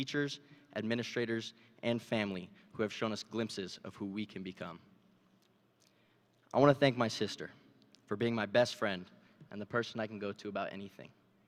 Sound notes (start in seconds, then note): none